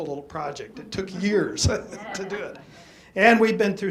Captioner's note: laughter